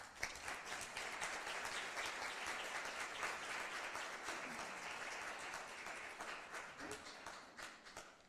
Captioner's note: applause